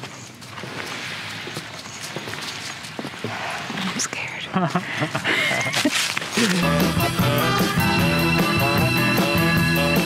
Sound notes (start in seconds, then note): 4.1 whispers; 4.5 both laughing